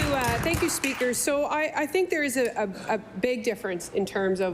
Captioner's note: applause